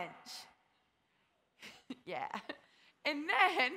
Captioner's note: laughs